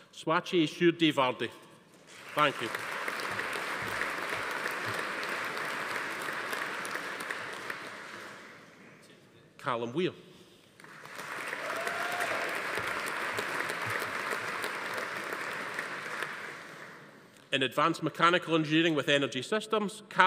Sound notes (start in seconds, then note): 2.1 audience applauding; 10.8 audience applauding; 10.9 attendees cheering